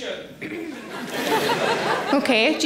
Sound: audience laughing

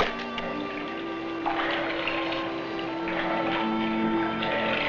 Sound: liquid splashing

